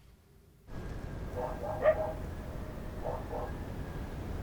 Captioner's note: dogs barking